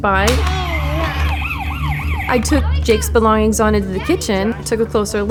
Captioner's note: car siren